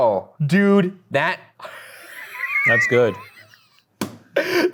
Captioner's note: laughing